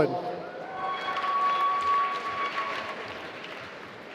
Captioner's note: applause